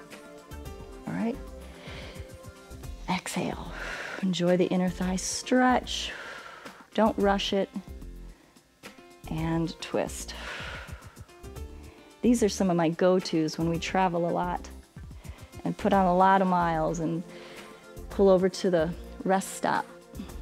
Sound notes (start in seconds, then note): 1.6 exhales; 10.3 exhales